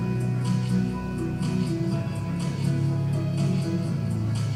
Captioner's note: none